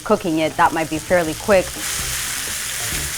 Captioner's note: sizzling